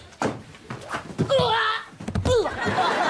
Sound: groaning

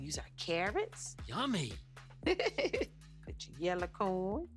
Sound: laughing

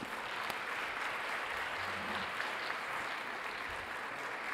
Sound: audience applauding

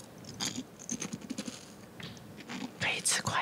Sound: the goddess demonstrates the sound of chewing

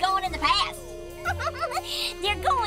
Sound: giggling

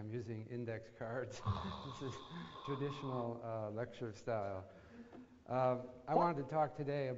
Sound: laugh

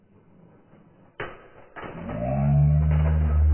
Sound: banging

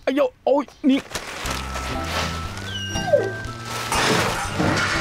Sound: dog whining; object breaking

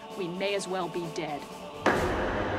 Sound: pounding

